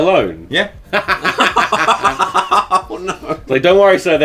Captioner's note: laughing